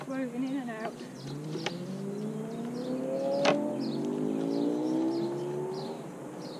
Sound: motorbike engine revs

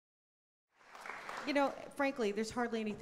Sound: audience applause

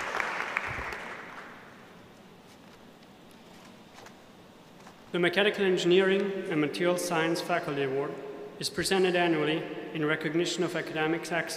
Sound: applause

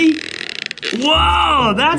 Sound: blows raspberries

